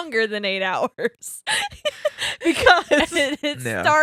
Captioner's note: laughing